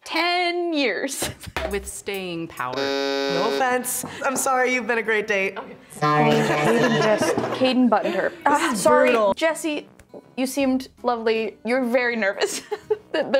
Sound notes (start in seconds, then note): 2.7 button buzzing; 12.9 laughs